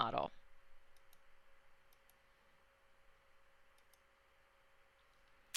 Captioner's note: silence